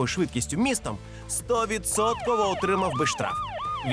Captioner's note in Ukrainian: звук сирени машини поліції